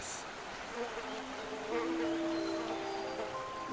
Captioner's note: insect buzzing